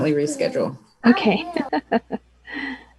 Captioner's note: laughs